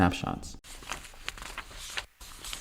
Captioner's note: papers Shuffling